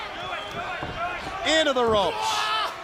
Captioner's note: crowd chatter